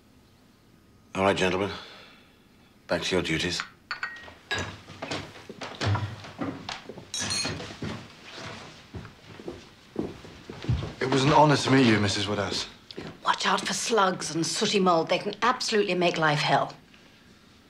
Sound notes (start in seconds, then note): 7.1 cutlery clatters